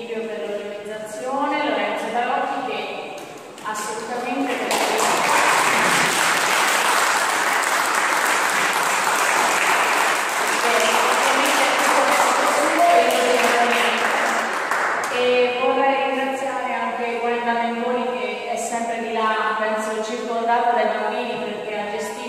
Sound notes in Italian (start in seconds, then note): 9.1 Applauso